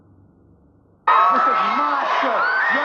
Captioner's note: applause